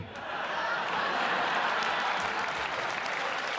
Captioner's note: cheers and applause